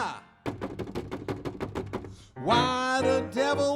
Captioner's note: hand knocking